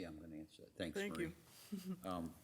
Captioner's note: mumbles